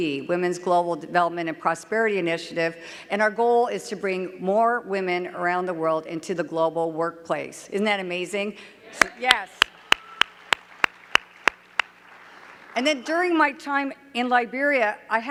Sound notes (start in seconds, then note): 9.0 clapping